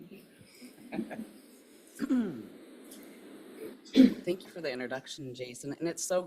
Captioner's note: laughs; clears throat